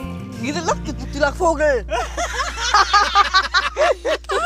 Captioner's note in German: Lautes Lachen